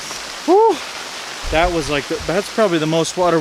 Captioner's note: groaning